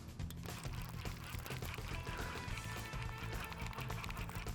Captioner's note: spool reeling